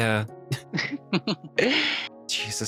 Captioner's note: laughing